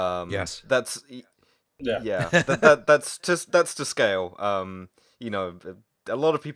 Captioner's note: laughter